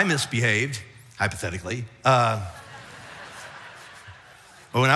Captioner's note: audience laughs